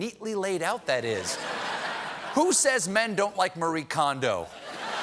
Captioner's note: laughter